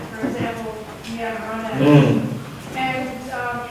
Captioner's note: grunting drowns out voice